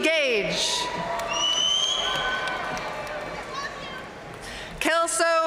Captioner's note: audience cheering and applauding